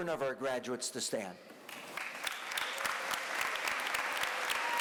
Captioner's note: applause